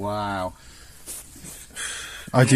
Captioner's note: sighs